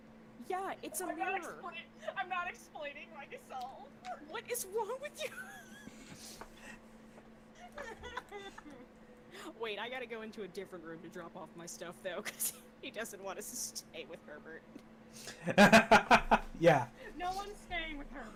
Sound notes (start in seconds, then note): 5.9 wheezing; 7.6 laughing